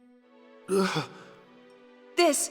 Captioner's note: gasps